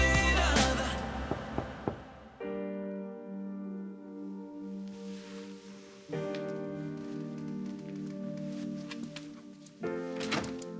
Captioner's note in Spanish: Toques en la puerta